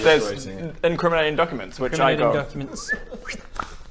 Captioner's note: whistle